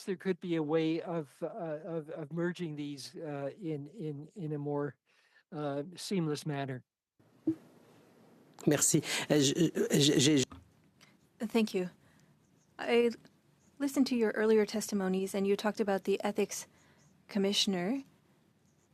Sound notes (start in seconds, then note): 11.9 speaking French